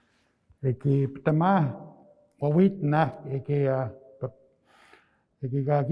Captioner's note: speaking in Nêhiyawêwin